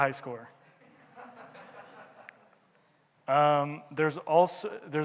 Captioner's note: audience laughing